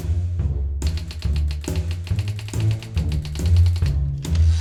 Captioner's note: typewriter keys clacking